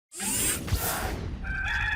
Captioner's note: air whooshing; cockerel crowing